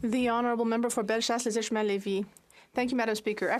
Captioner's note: speaking in French